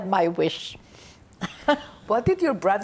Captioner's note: laughing